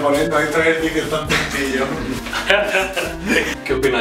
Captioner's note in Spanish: risas